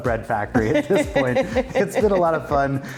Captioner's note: laughing